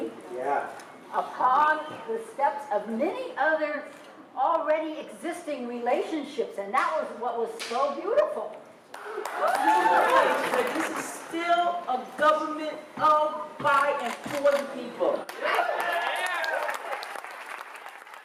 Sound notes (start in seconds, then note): 8.9 applause; 15.2 applause